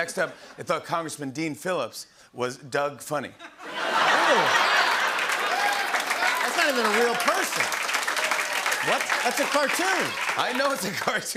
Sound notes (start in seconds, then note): 4.9 laughter, applause